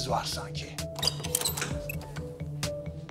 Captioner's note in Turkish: Kapı açıldı